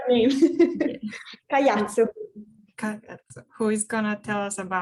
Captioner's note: laughs